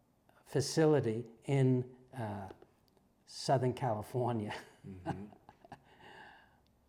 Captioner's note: laugh